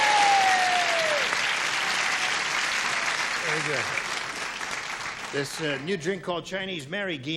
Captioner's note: cheering